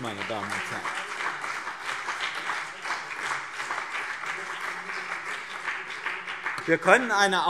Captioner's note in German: Beifall BÜNDNIS 90/DIE GRÜNEN und CDU